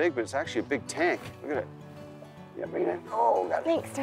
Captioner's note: grunting